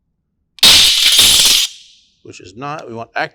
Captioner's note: alarm sounding